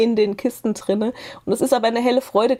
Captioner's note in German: none